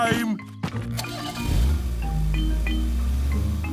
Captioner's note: engine starting